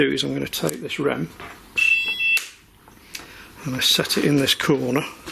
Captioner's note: beeping